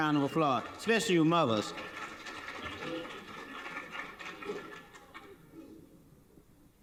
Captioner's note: audience applauding